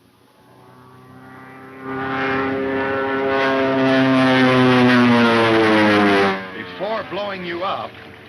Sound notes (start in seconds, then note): 0.0 airplane engine roaring